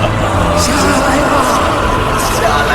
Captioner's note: voices